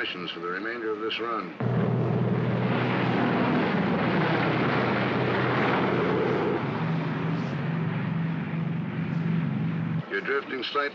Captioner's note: aircraft rumbles